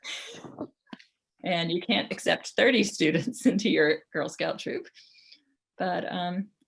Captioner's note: laughs